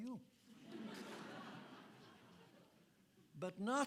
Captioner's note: audience laughing